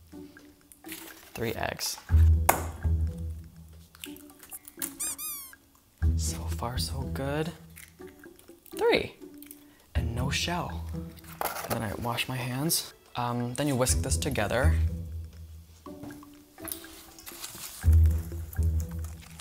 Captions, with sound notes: Three eggs. (egg shell bangs on bowl) (rubber duck squeaks) So far so good. Three! And no shell. And then I wash my hands. Then you whisk this together. (sneaky music)